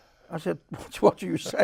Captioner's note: chuckles